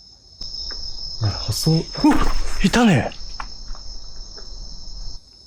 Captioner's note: scuff; scuff